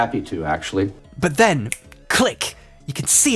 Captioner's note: snaps fingers